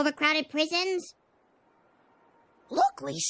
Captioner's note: long silence